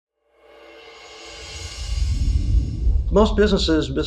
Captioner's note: air whooshing